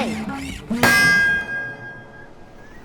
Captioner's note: loud clang; beach ambience